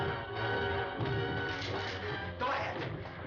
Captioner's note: gun cocks